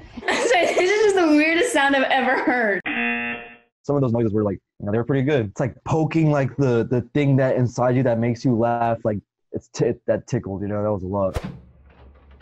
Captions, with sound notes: - (laughs) It's just the weirdest sound I've ever heard! (buzzer rings) - Some of those noises were like, you know, they were pretty good. It's like poking the thing inside you that makes you laugh, that tickled, you know, that was luck.